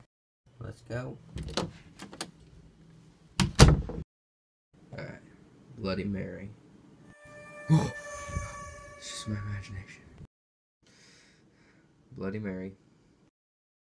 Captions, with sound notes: Lets go. *door opens and closes* Alright. Bloody Mary... *gasp* It's just my imagination. Bloody Mary.